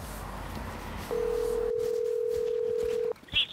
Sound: dial tone

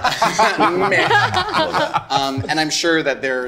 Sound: group laughing

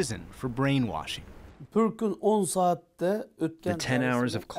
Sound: through translator

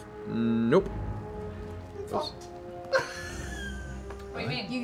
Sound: laughs

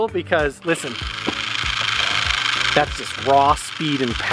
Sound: rattling motor

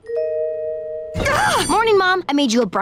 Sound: shrieking

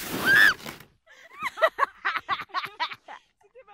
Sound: me: laughs in evil

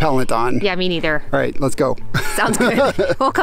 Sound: laughs

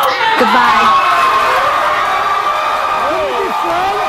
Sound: audience applauds

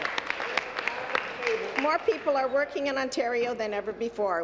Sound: applause

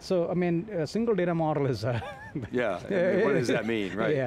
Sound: laughs

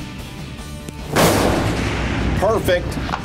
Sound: gunshot

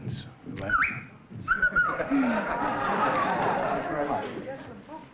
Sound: whistling

